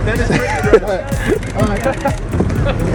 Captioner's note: upbeat music; laughing